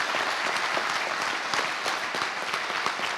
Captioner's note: applause